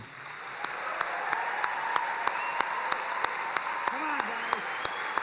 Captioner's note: applauding and cheering